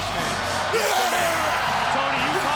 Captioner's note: Goldberg shouting